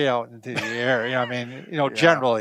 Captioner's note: laughing